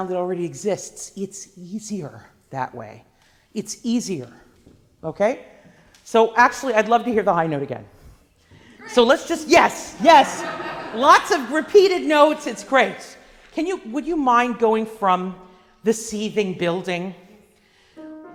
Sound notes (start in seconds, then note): 8.7 laughing